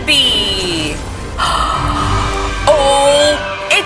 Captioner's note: gasping